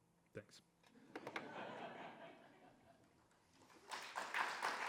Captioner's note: audience laughing; audience applauding